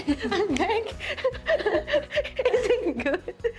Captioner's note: laughing